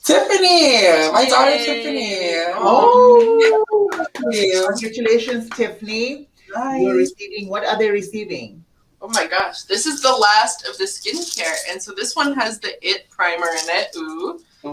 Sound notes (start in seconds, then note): 3.1 group claps; 3.9 applauds